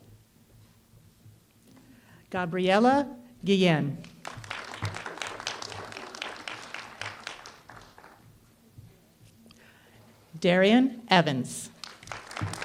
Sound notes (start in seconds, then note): 4.0 applause; 11.6 applause